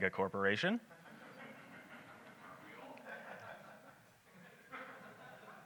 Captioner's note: audience laughs